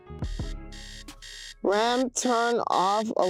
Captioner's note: alarm buzzing